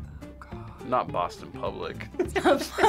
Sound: whispers; laughs

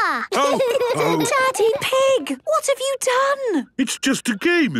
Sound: laughter and snorting; laughter

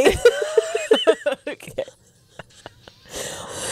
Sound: panel laughing

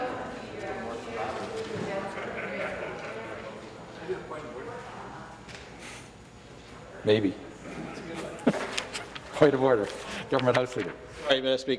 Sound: chatter

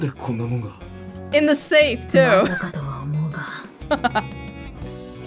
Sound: chuckles

